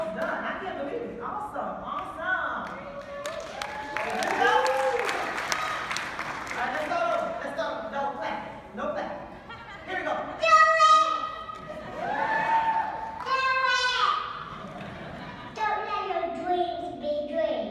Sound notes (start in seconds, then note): 5.1 clapping